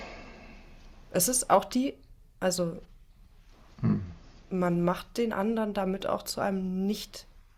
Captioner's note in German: räuspern